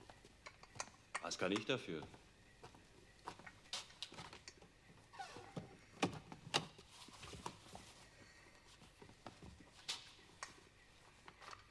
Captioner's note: speaking german